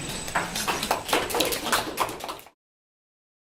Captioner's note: audience applauding